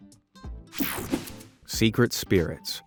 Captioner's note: scene change whirs